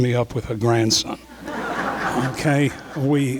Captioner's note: crowd laughing